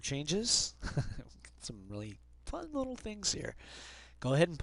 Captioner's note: chuckling